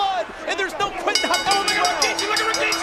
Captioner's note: bell ringing